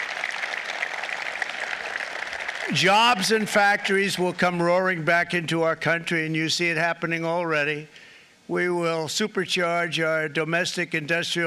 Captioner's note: applause